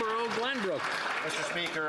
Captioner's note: some Applause